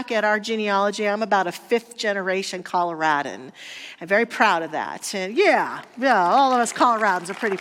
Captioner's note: audience applause